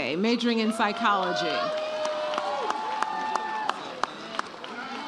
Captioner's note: audience cheers